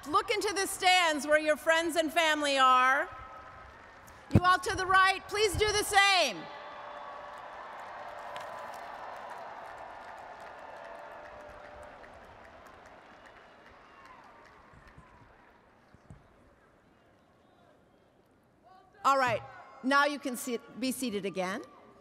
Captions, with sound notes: look into the stands where your friends and family are. You all to the right, please do the same. (audience applauds) All right, now you can be seated again.